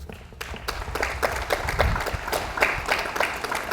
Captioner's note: audience applauds